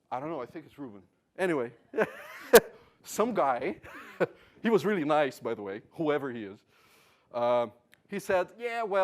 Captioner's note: laugh